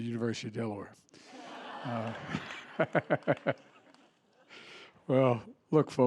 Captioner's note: laughter